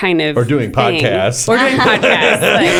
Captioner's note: laughter